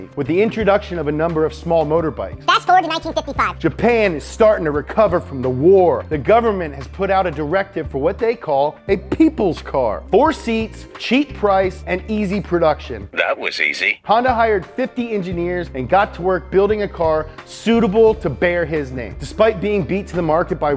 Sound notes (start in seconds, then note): 2.7 fast Robotic Voice; 13.4 deep Voice